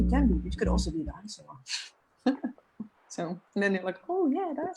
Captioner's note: chuckles